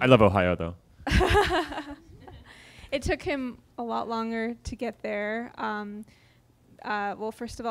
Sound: chuckles

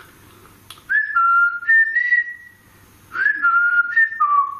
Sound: whistles

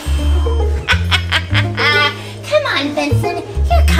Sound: evil laughter

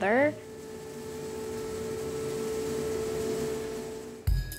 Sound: machine whirring

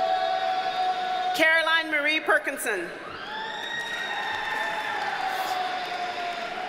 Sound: audience cheers and applauds

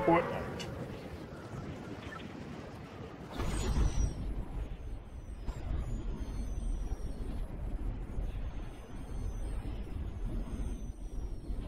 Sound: gaming noise

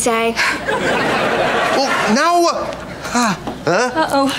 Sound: sneezing

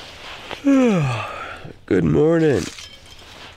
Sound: yawns

